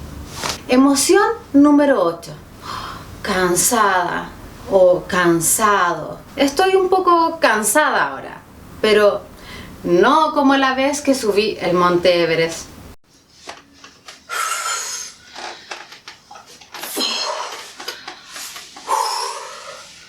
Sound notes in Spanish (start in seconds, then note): 14.2 respirando fuerte, jadeando